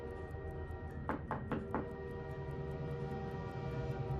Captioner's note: door knocks